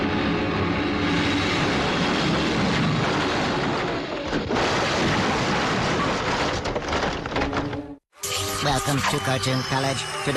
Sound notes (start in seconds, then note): 1.8 houses thudding; 4.2 debris clattering